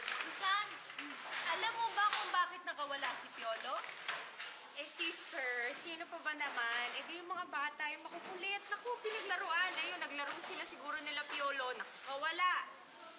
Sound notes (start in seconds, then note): none